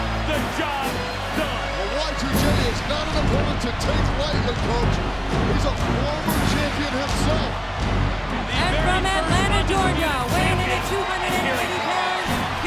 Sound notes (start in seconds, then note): 7.7 applause